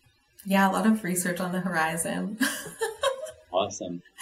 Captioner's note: laughs